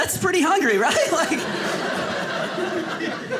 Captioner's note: audience laughing